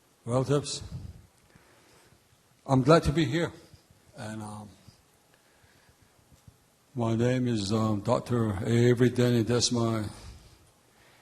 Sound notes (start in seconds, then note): 0.8 speaking in native language